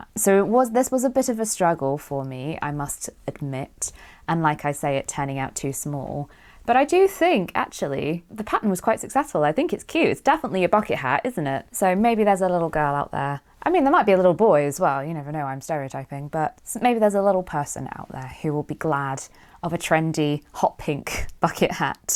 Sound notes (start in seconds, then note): none